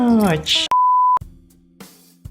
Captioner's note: beep